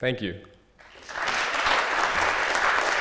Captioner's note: applause